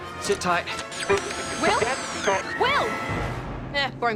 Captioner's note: garbled radio transmissions